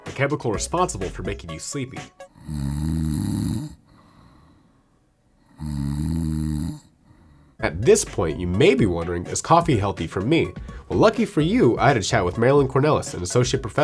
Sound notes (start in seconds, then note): 2.3 snores